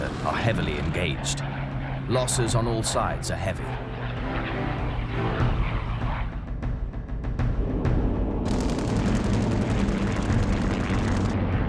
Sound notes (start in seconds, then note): 5.6 dramatic music; 5.6 plane engines roaring